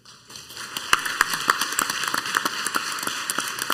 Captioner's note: clapping